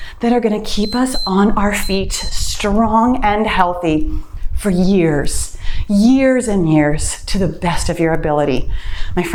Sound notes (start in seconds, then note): 0.7 timer beeps